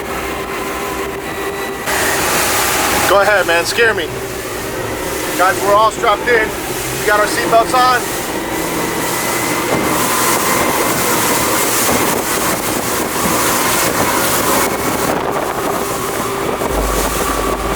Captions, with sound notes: Go ahead man, scare me. Guys, we're all strapped in, we got our seat belts on. (wind blowing)